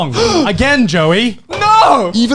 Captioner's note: Joey gasps